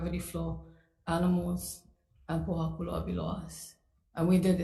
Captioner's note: speaks foreign language